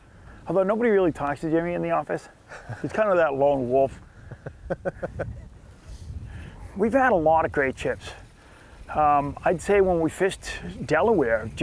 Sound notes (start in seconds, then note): 4.2 laughs